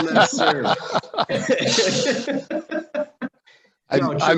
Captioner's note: laughing